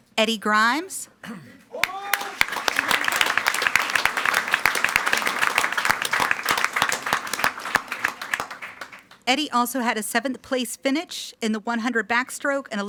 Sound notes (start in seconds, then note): 1.8 everyone applauding